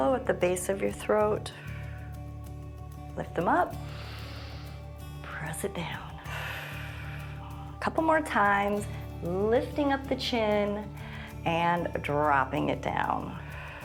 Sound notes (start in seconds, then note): 6.2 inhales; 6.9 exhales